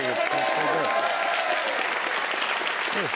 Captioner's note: cheers and applause